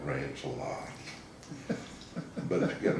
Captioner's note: laughing